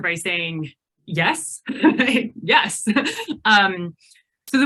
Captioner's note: laughs